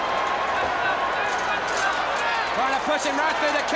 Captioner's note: crowd chatter